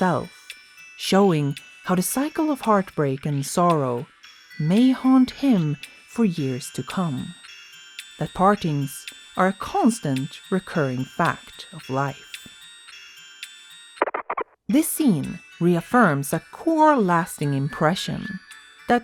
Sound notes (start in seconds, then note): 14.0 record skipping